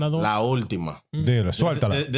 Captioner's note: speaking In Foreign Language